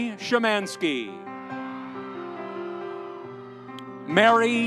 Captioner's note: audience cheering